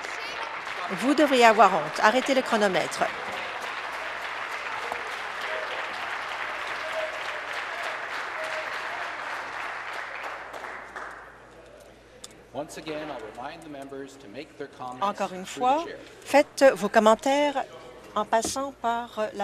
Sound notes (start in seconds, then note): 4.3 applause